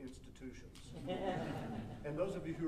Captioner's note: audience laughing